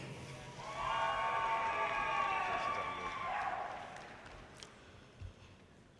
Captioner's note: audience cheers and applause